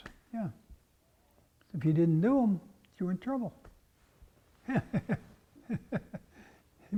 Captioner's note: laugh